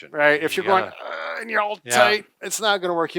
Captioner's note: grunts